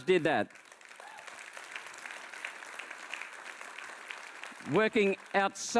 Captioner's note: audience applauds